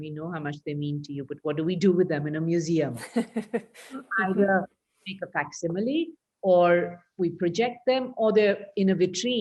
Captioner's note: laughs